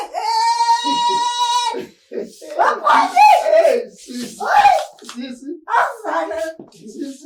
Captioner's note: laughing